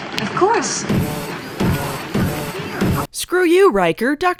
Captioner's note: robotic steps